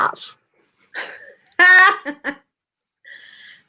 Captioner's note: laugh